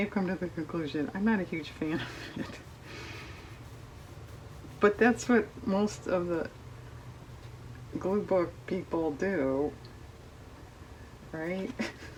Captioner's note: laughs